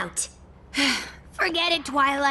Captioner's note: sigh